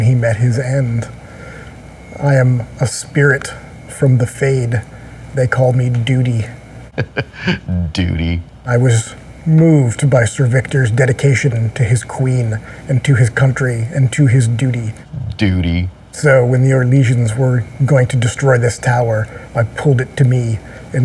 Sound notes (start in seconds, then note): 6.9 chuckle